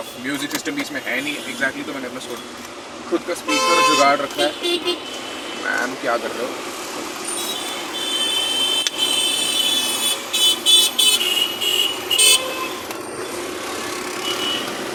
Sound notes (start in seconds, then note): 8.9 harsh honks